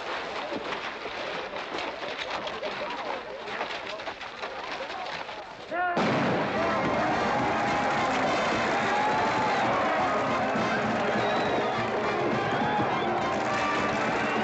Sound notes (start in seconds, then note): 6.0 blank gun firing; 6.2 band playing & crowd cheering; 14.2 crowd cheering and hooves pounding